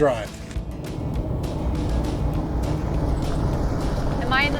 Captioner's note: car engine revving